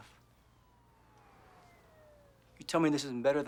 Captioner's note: siren wailing